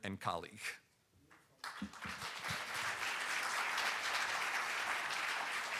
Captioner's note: audience applauding